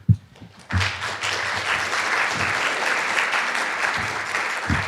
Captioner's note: applause